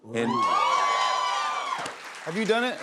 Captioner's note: cheers and applause